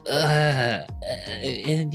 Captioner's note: groans